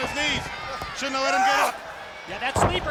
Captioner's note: wrestlers grunting